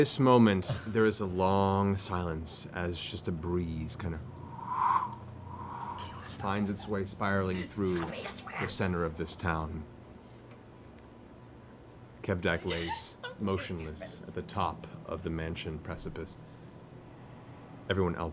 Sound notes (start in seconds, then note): 4.3 imitates wind